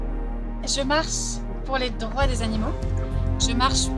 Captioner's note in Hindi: फ्रेंच